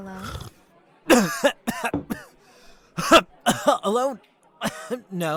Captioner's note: coughs